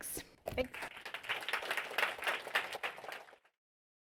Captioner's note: applause